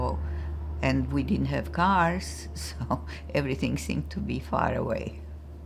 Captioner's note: laughing